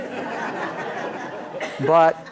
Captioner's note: laughter